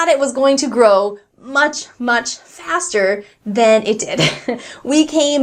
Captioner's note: chuckles